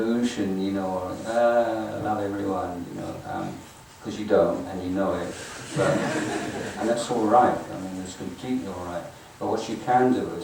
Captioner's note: audience laughing